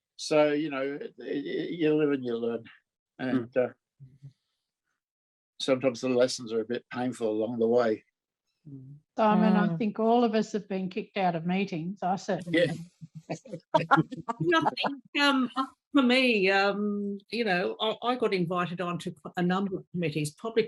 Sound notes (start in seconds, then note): 13.3 laughing